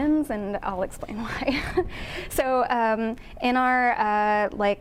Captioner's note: chuckles